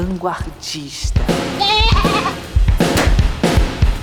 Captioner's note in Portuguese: balido